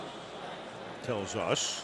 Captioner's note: pa announcement